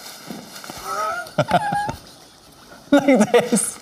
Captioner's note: laughing